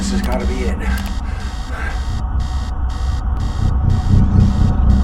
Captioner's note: device beeping